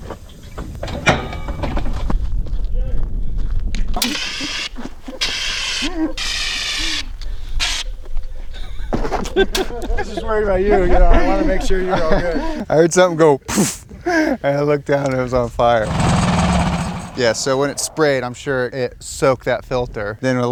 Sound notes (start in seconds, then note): 4.0 extinguisher firing; 8.6 laughing; 13.7 blowing air profusely